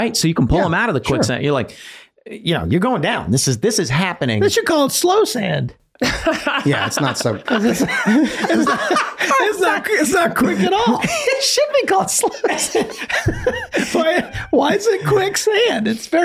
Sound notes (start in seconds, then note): 6.0 laughs; 8.4 everyone laughing; 13.2 everyone laughing